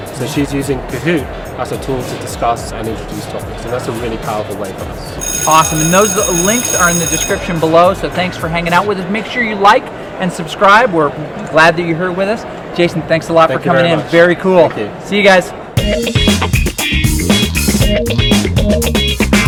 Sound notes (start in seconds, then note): 5.2 bell rings; 15.8 upbeat music